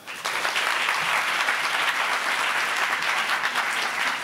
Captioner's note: applauding